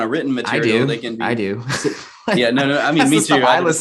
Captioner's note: chuckles